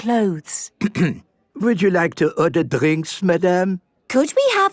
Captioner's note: clears throat